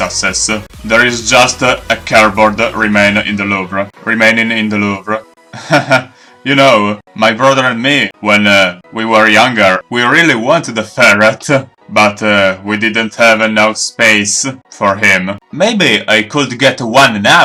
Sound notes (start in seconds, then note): 5.5 laugh